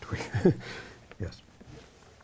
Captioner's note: chuckles